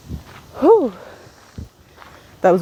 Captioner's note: lets out a loud breath